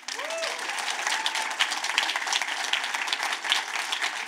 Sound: audience claps

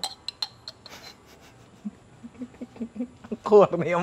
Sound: laughs

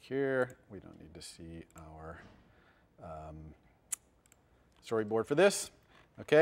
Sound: pause

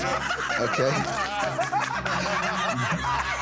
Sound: laughter

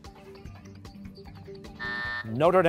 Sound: buzzer

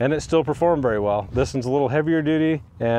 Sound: image whooshing

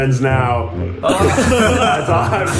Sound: group laughs

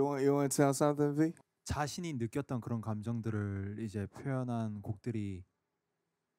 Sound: speaking in foreign language

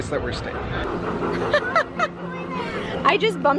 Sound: laughs

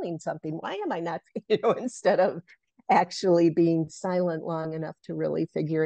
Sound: laugh

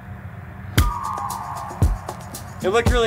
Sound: golf club pings

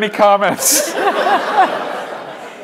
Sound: laughter

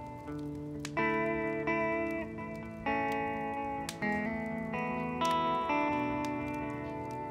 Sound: fire crackling

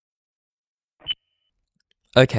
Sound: recorder beep

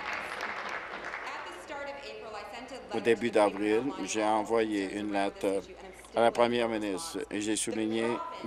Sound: applause

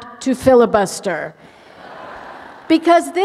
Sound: laughter

